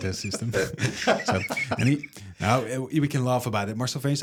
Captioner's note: laughs